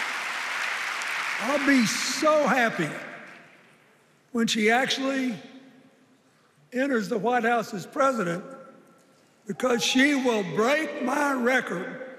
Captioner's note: cheers and applause